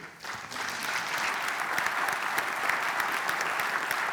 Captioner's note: applause